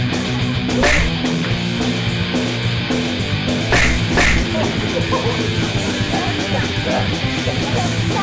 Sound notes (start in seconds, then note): 0.7 loud thwacking; 4.8 heavy rock music